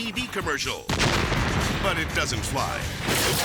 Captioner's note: explosion rumbles; shed shattering